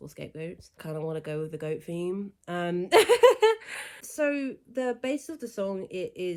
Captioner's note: laughs